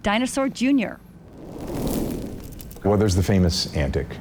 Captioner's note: fire roars